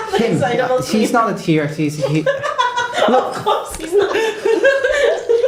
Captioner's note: laughter